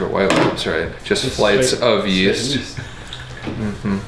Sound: laughs

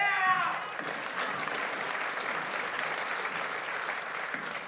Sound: audience applauds

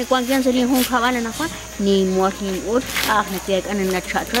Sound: corn husks rustling

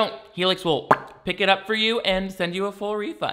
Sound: pops lips

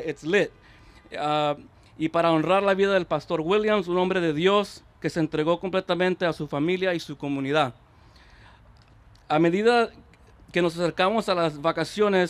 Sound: remarks in spanish

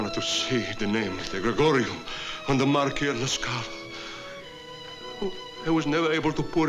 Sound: italian

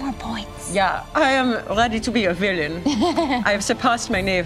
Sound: imitates German accent

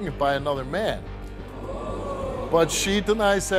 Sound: audience oohing

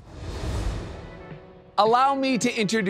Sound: graphics whoosh; soft jazzy music

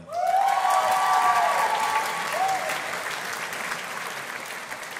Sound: audience applauding

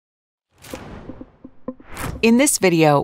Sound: transition wooshes

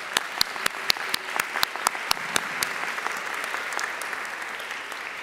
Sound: audience applauding

